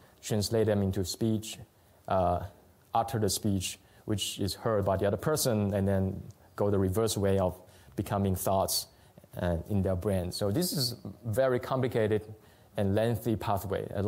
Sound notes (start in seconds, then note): none